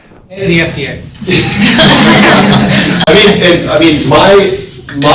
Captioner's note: all laughing